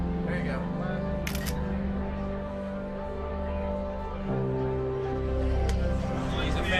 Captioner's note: shutter clicks; indistinct chatter